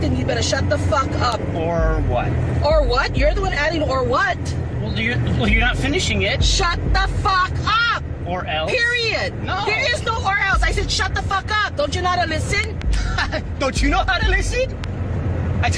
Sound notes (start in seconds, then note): 12.9 chuckling sarcastically